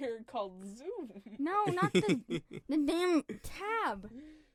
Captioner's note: laughter